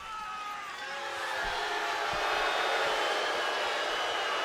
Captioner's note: crowd boos